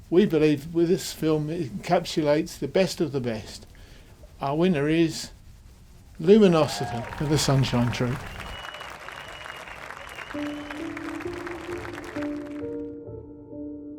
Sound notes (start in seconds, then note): 8.4 crowd clapping; 10.3 mellow music